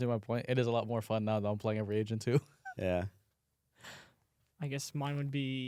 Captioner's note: laughs